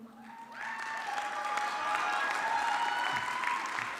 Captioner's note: audience clapping